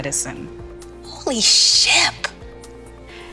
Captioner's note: surprised